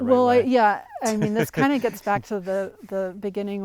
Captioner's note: laughs